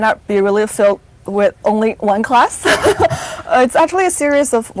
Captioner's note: chuckles